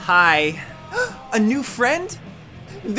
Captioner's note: gasps